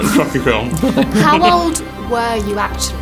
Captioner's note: both laughing